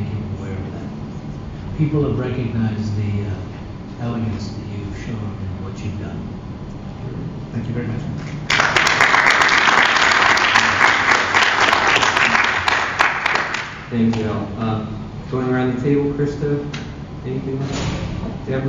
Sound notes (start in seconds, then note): 8.2 applause